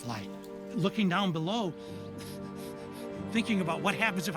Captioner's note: chuckling